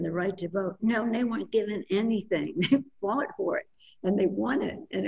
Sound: laughs

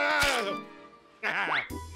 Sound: groaning

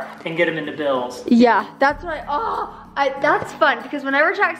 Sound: groans

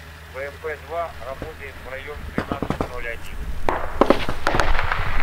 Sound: radio exchange

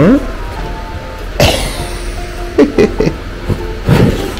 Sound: laughs

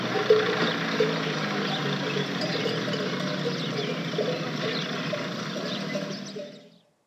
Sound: car sound

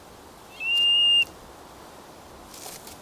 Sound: curlew calls

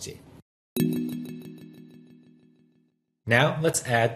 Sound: deep chime

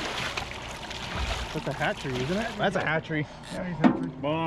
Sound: fish splashing

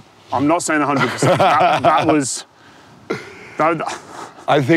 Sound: laughs

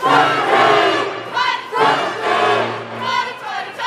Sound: people cheering

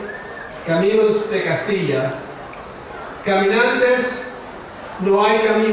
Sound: speaking in foreign language

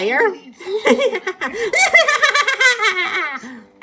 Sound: Skull Kid laughing

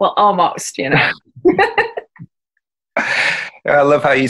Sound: laughing

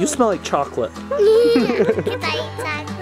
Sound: laughter

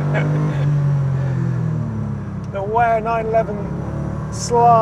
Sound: laughs

